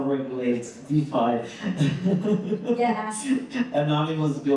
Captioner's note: laughing